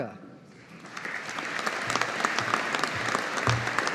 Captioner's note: audience applauding